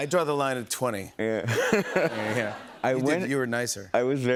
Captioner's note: laughs